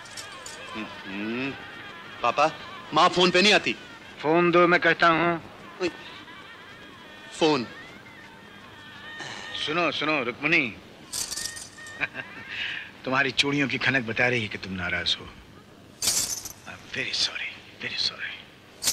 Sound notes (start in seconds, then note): 11.0 bangles clinking; 16.0 bangles clinking; 18.8 bangles clinking